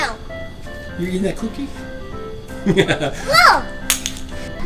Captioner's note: laughs